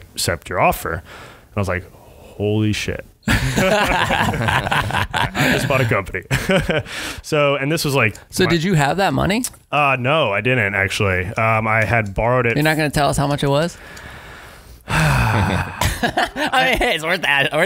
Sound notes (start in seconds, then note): 3.3 laughing; 14.8 sighing; 15.1 laughing